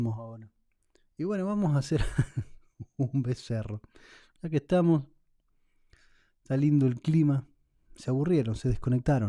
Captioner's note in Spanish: risas